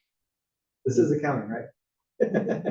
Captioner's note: laugh